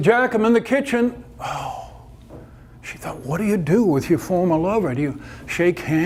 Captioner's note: exasperated sigh